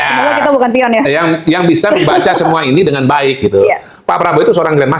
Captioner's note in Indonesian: tertawa